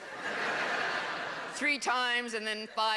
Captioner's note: laughter